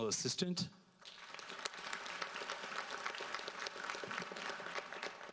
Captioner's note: audience applauds